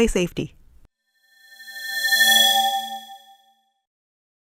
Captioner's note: swoosh